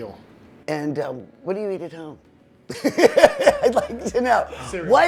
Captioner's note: laughing